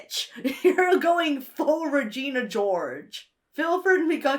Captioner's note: chuckles